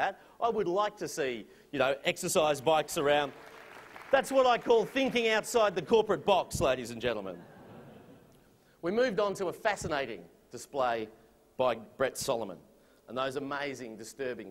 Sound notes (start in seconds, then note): 2.8 applause; 7.3 laughter